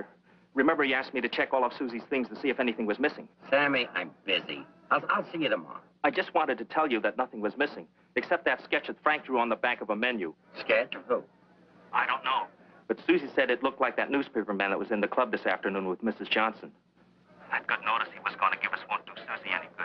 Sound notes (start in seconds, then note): 11.8 on phone; 16.6 on phone